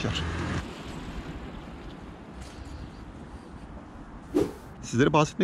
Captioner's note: bird sounds on the street